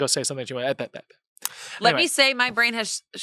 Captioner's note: mimics stuttering